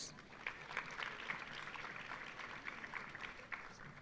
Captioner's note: audience applauding